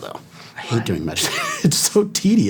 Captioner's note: chuckling